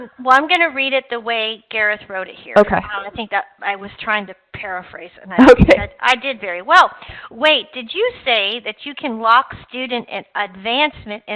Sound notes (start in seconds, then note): 5.4 chuckling